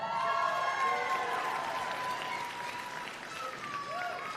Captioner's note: applause